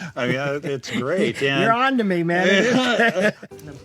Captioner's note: chuckles